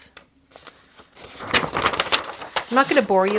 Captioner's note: paper crinkling